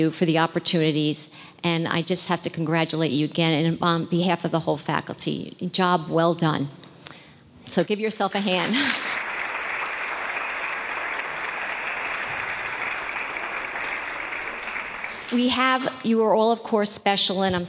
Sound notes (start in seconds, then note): 8.6 audience applause